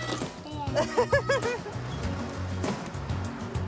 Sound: laughs

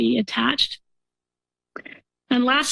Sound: pause

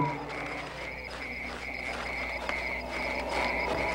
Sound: insects trilling

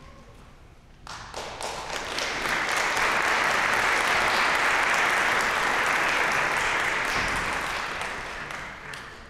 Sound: applause

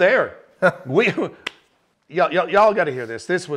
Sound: chuckling

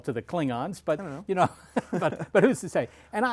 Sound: laughter

